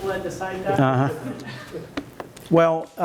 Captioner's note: laughter